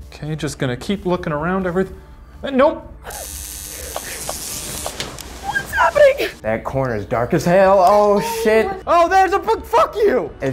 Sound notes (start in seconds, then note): 3.0 buzzing; 3.1 squealing